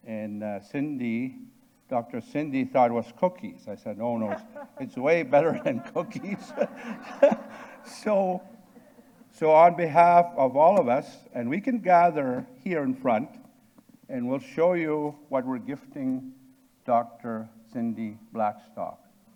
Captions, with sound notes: and Cindy, Dr. Cindy thought it was cookies. I said, "Oh no, it's way better than cookies." (audience and participants laughing) So on behalf of all of us, and we can gather here in front, and we'll show you what we're gifting Dr. Cindy Blackstock,